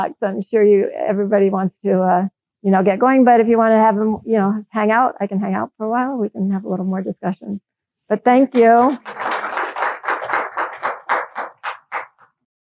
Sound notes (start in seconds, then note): 8.3 applause